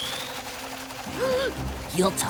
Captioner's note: feather powers up, whirs faster; gasps